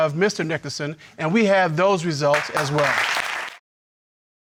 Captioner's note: audience applauding